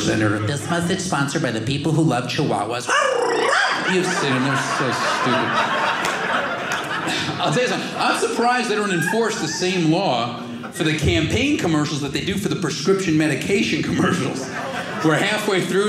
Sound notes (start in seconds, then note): 2.9 barking dog sound; 5.6 audience laughing